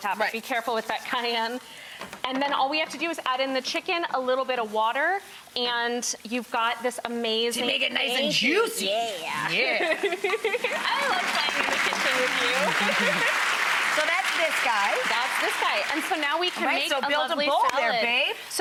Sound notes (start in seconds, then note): 9.7 both laugh; 12.9 audience claps